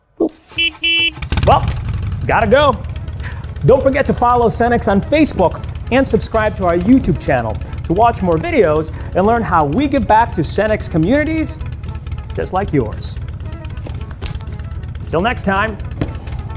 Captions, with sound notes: (motorbike honking) (motorbike engine revving) Well, gotta go. Don't forget to follow Cenex on Facebook and subscribe to our YouTube channel to watch more videos and learn how we give back to Cenex communities just like yours. (motorbike engine revving) 'Til next time.